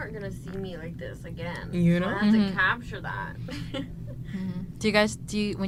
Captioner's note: laughs